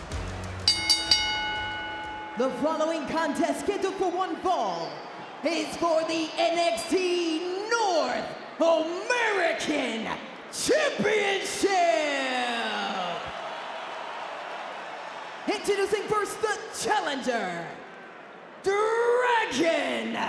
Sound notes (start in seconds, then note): 0.6 bell ringing